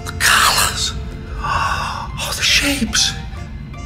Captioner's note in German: keuch